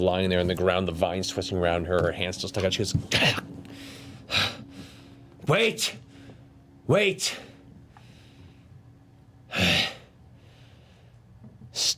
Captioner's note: sighs